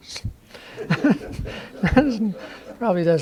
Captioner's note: laughter